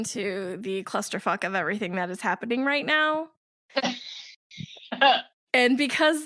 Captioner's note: laugh